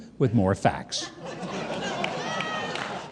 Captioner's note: audience laughing